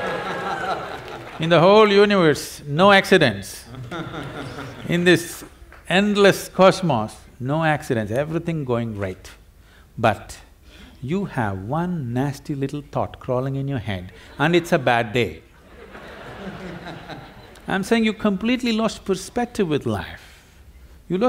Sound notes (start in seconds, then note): 0.0 laughter/Applause; 15.6 laughter